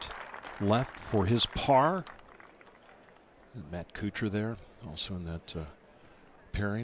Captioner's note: applause